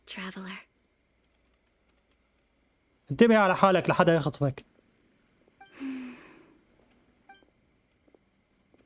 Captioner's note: sighs